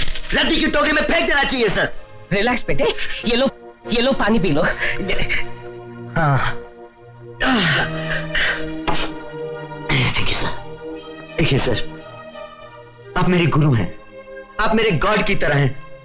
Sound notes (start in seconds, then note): 7.3 sighs; 7.3 heavy Breathing